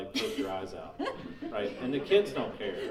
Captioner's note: laughing